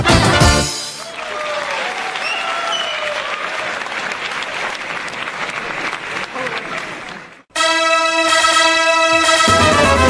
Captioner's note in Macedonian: аплауз